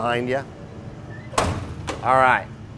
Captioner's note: door closing